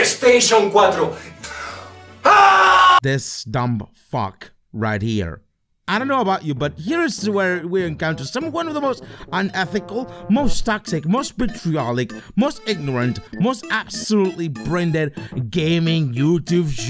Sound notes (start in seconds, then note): 0.6 screams into nothing